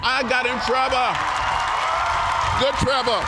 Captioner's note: cheers and applause